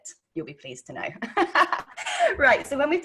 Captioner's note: laughing